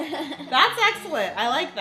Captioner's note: laughing